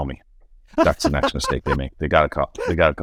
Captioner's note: laughing